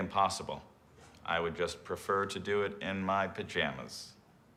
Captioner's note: none